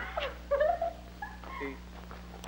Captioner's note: laughs